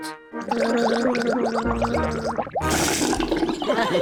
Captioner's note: gargles